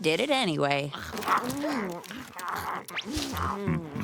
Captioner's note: eating noises